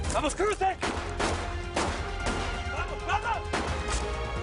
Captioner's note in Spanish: Disparos